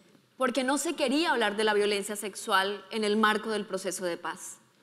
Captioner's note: speaking in foreign language